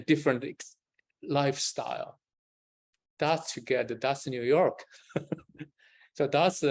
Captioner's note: laughs